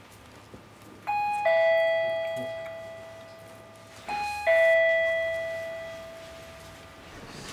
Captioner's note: doorbell rings